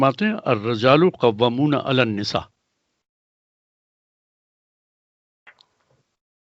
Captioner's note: recites in arabic